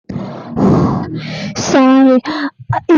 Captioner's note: sigh